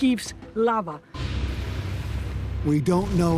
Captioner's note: explosion